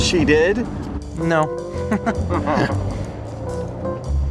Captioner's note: chuckles